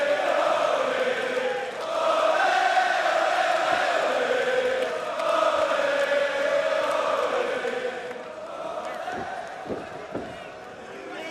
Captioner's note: crowd cheering